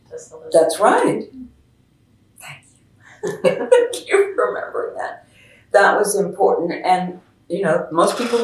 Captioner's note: laughs